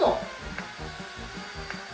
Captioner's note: zap